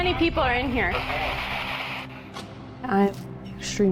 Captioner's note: spirit box voice